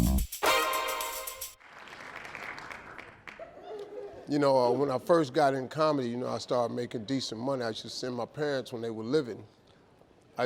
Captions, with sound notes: (audience clapping) (audience laughing) - You know, when I first got in comedy, I started making decent money, I used to send my parents, when they were living,